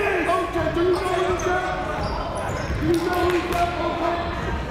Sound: shouting

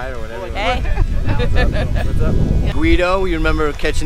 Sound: laughter

